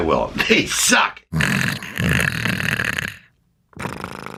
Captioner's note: snoring